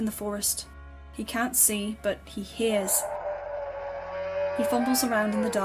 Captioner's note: pained howl